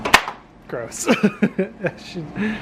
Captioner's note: chuckles